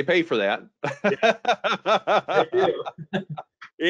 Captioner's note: laughs